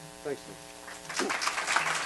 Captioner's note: applause